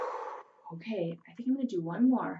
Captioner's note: inhales; exhales